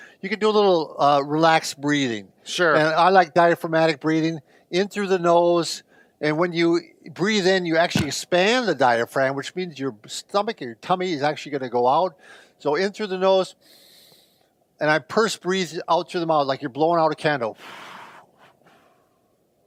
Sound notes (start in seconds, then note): 13.6 inhale; 17.5 exhale